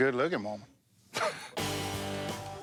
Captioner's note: laughs